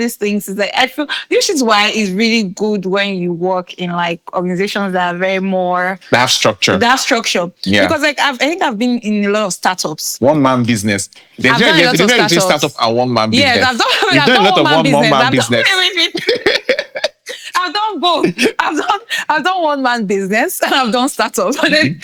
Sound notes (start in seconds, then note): 16.6 laughing